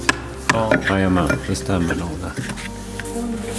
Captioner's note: speaking Swedish